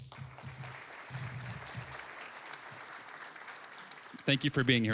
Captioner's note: applause